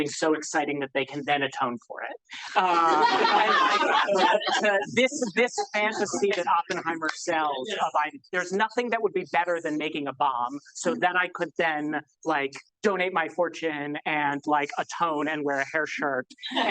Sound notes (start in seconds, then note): 2.4 audience laughs